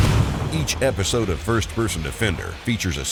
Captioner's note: voiceover